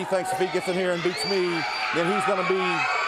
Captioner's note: crowd chatter